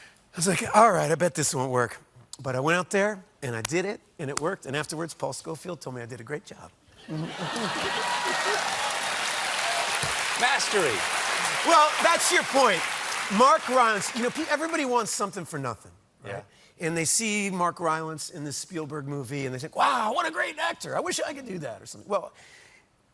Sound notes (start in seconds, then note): 10.8 applause